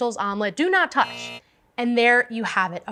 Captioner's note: buzzer